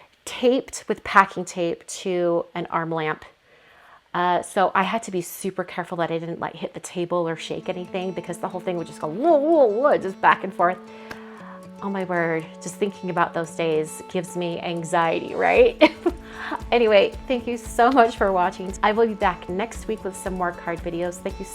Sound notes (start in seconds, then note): 15.8 laughs